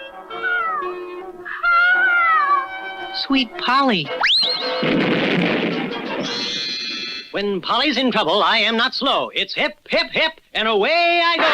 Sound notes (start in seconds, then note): 4.5 explosion